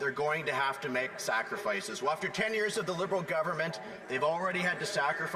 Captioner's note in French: voix de l'interprète